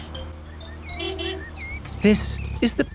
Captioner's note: honking